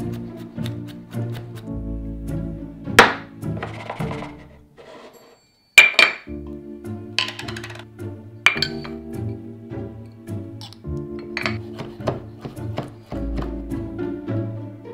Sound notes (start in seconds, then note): 11.3 knife chopping